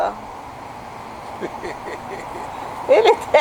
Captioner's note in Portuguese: risos